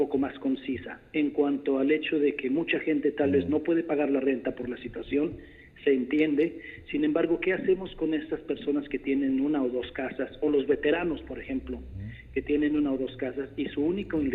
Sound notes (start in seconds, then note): 2.2 repeating question in spanish